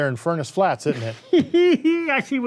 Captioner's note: laughing